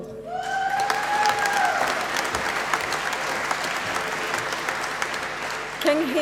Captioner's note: applause